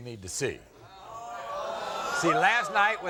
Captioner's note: audience groaning